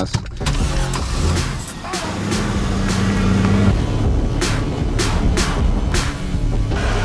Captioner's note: upbeat edgy music; Camaro engine starts